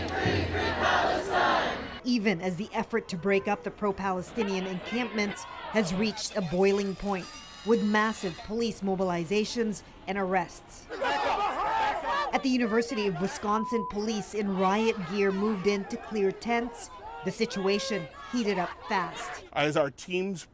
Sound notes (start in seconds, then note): 0.0 chanting